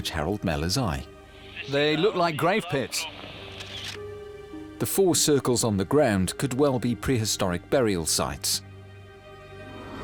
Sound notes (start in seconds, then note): 1.8 in German; 3.4 camera shutter clicks